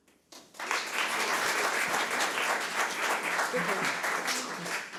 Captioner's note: audience applause